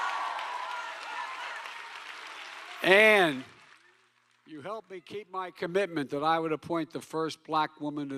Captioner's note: cheering